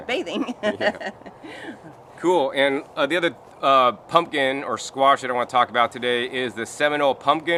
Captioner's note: chuckling